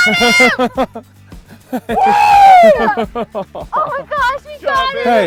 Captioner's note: laughter